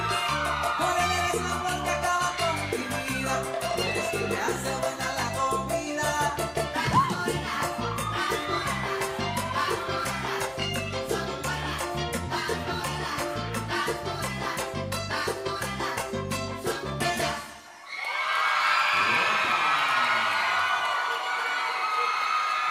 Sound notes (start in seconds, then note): 0.0 audience cheering; 6.8 audience cheering; 17.8 audience cheering and applauding